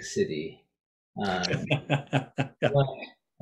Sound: laughs

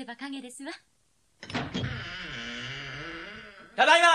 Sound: SFX: door creaks open

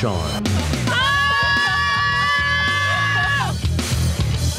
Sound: girls screaming

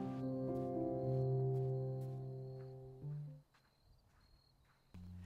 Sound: crickets chirping

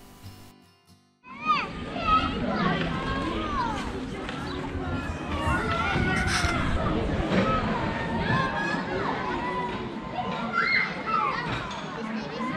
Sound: children voices

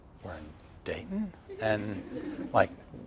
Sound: laughter

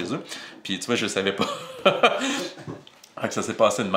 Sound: laugh

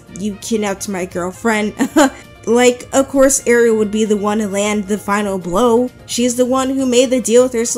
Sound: laughs

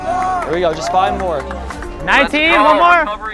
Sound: people shouting indistinct

